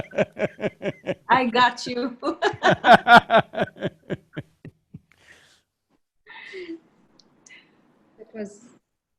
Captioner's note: laughs; laughter